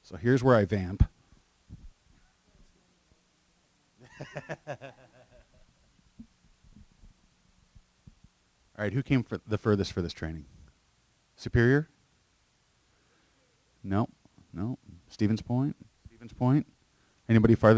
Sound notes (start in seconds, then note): 7.1 laughter